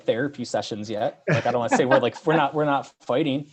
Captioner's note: laughing